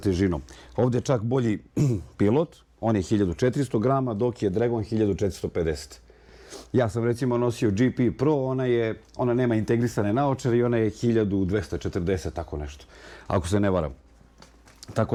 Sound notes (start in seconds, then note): 1.7 coughs; 5.6 snort